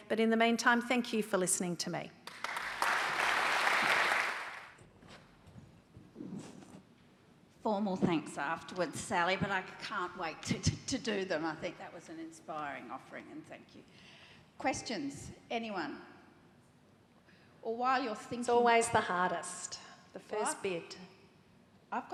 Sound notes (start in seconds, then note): 2.2 audience applauding